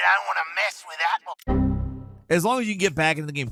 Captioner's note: message booping